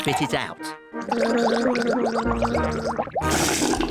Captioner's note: gargles